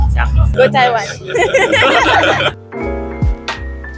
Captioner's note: laughter